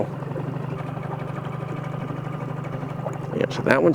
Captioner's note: boat motor hums